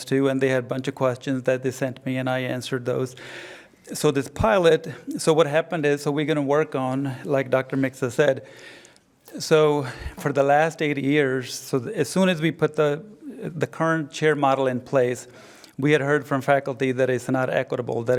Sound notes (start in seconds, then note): none